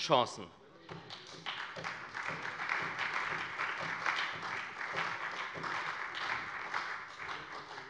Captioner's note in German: Beifall bei der SPD